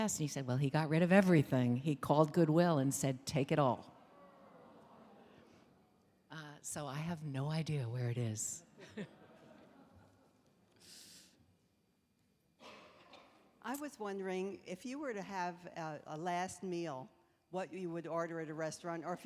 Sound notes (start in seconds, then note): 4.1 audience responding; 8.8 chuckling